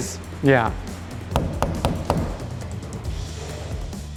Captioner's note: hammer clanging; upbeat music